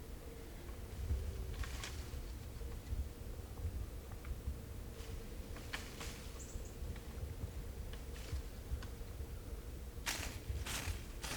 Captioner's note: deer raking branches and scraping